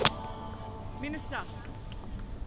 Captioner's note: smacks